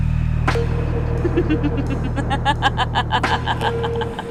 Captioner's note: evil laughs